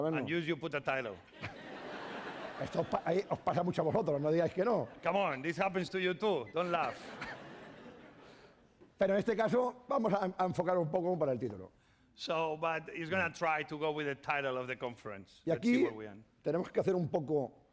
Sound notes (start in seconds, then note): 0.0 speaking spanish; 1.3 laughter; 3.9 speaking spanish; 6.6 laughter; 9.6 speaking spanish; 16.5 speaking spanish